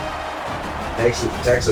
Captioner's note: crowd Noises